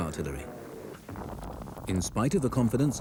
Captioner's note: shells boom